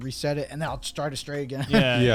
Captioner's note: chuckles